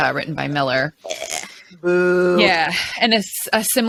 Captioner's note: gags